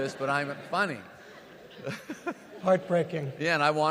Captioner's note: and audience laughs